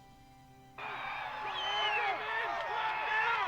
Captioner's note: overlapping yelling